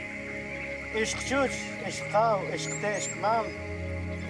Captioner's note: Spanish spoken audio